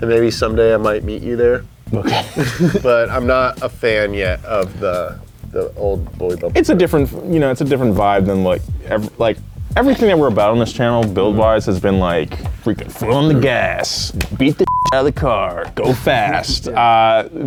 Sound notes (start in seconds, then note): 14.6 beep